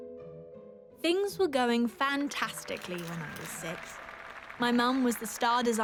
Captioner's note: audience applauding